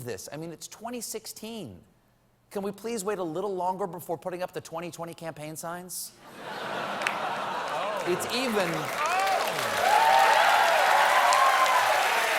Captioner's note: cheers and applause